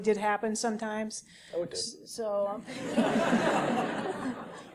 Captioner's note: laugh